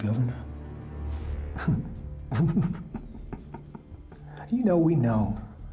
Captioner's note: laughing